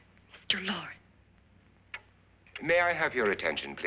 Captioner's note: clock ticking